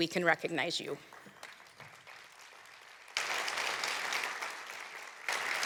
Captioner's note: applause